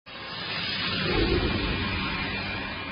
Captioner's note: whooshing